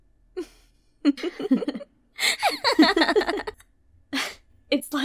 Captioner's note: laughing